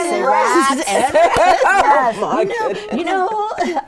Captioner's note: all laughing